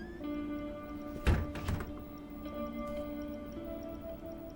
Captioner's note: door thuds